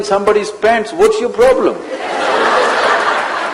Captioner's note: laughter